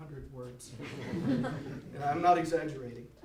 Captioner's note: audience laughs